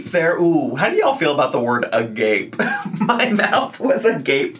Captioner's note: laughs